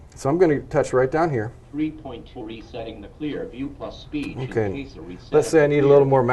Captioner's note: CCTV speaking: Three points for resetting the Clearview+ Speech